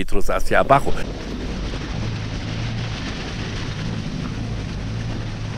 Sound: engine sound and gravel

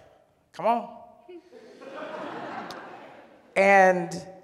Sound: audience laughs

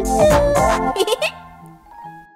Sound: laughs

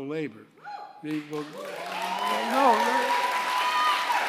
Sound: applause

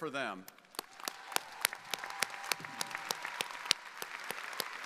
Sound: audience cheering

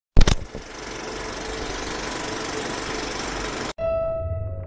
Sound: movie reel sound

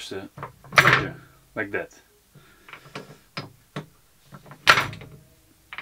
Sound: machine clanking

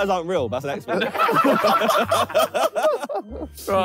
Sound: all laughing

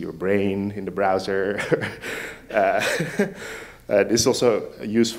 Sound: laughs

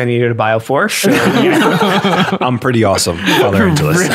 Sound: laughter

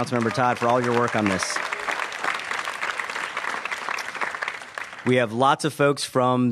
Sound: applause

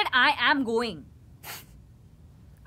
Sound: scoffs

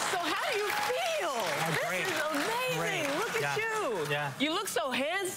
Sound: crowd cheering; applause

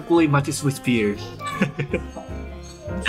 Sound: chuckle

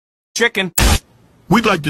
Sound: boom

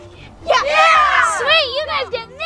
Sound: boys cheering

